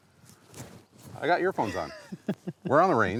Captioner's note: chuckles